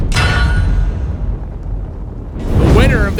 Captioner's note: logo thumping